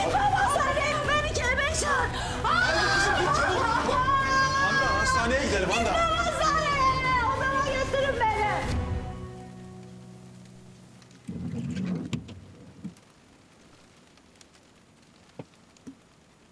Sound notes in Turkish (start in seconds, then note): 11.2 Silecek sesi; 13.5 Yağmur sesi